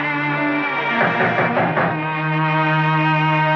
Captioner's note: Knock On Door